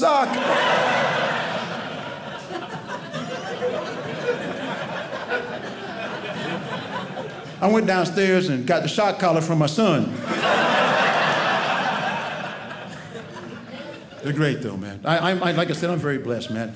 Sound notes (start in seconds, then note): 0.0 audience laughing; 10.1 audience laughing